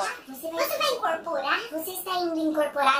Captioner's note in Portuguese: voz modificada para tom engraçado